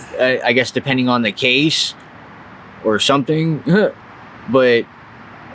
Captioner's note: chuckles